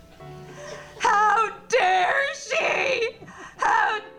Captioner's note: audience laughing